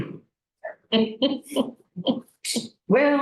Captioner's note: laughter